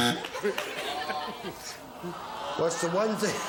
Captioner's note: buzzer